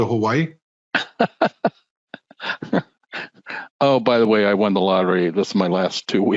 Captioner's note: laughs